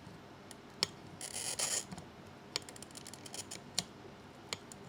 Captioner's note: class cutter scraping